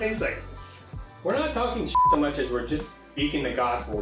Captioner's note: beep